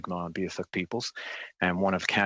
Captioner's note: speaking French